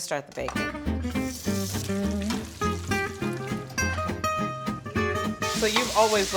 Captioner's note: bacon sizzling; upbeat music